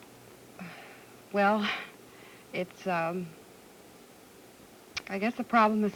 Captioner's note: sighs